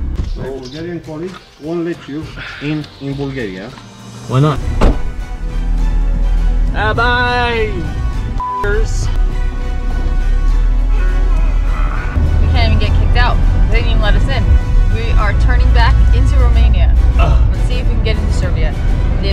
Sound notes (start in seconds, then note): 4.7 door shuts; 8.4 beep; 10.9 grunts; 17.1 grunts